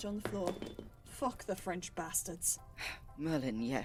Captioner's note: bottle clatters; sigh